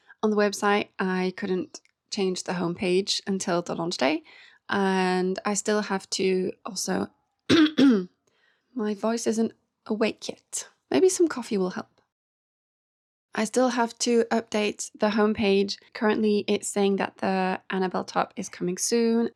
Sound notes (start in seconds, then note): 7.5 clears throat; 7.5 cough